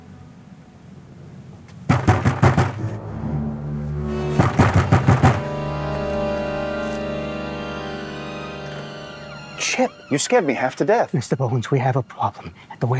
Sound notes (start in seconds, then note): 1.8 loud knocking